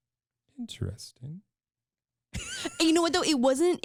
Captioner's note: laughs